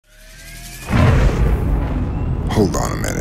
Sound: engine starting

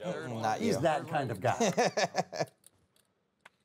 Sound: laughing

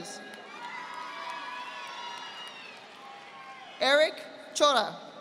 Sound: audience applauding

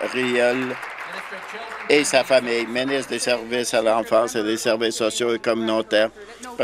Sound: applause

